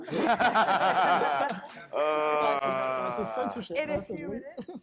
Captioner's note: panelists laughing